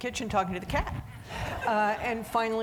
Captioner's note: audience laughing